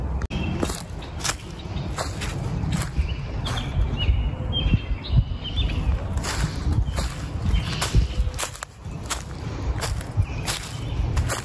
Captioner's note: leaves crunching, birdsong